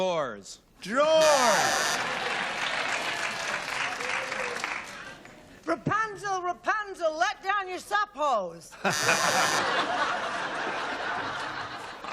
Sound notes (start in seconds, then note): 1.2 buzzing; 1.9 applause